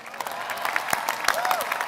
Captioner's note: applause